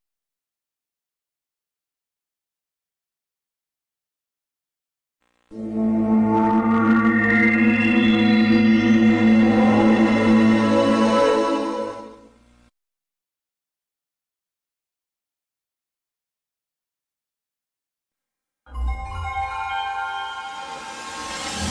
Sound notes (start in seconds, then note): 0.3 silence; 5.5 64-bit video game music; 12.9 silence; 18.8 64-bit video game music